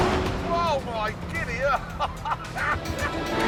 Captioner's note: laughs